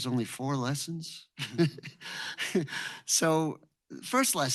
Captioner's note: chuckles